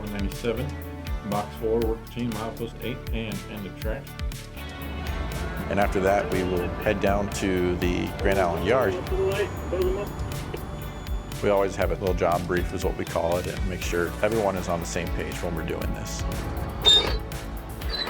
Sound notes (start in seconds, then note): 10.2 engineer radio talking